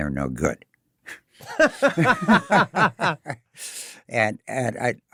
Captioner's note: laughing